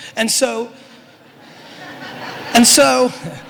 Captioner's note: audience laughter